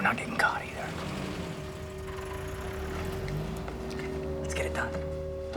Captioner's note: engine rumbling